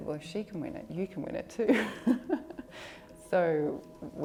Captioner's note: laughs